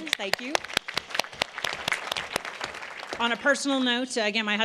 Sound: applause

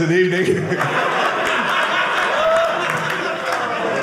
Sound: audience laughing

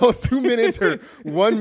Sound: laughs

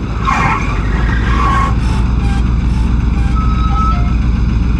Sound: screechy noise

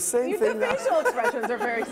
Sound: laughter

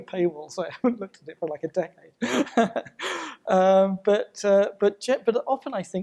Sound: chuckling

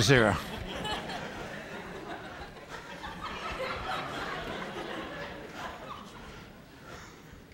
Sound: laughter

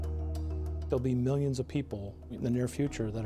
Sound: voiceover

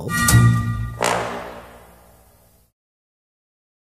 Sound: bell sounds; horn blows

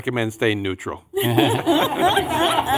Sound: laughing

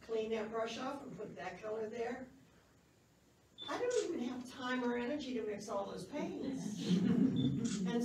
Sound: laughs

